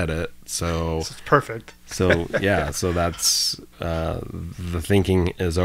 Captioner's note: chuckles